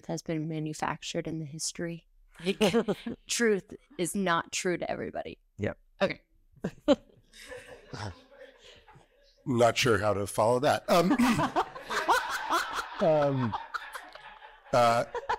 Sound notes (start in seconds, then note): 10.9 audience laughing